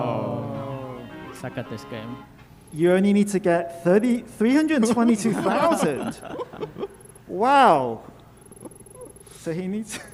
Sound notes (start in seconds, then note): 0.0 end music; 4.8 laughing